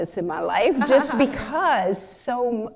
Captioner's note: laughter